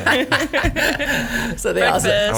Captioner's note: laughing